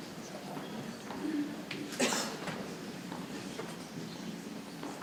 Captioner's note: people chattering softly